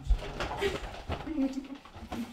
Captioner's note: laughs